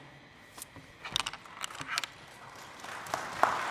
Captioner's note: applause